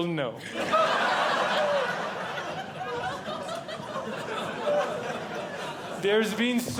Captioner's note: audience Laughing